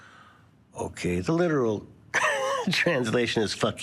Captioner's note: laughs